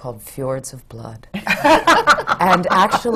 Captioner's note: laughter